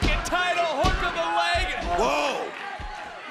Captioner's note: hand thudding